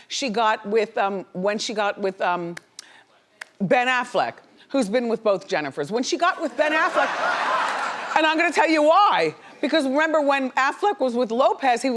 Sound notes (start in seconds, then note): 6.4 laughs